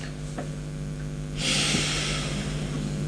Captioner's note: breathing